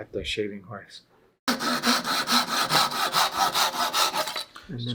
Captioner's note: knife scrapes